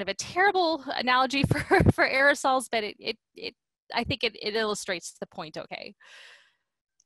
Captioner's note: laughter